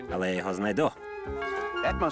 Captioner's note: door bell rings